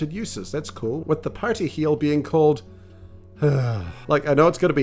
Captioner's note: sigh